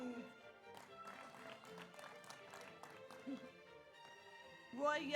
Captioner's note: audience applauds